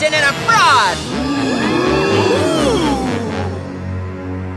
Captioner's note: audience gasping